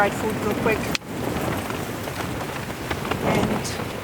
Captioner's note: wind rattling the tent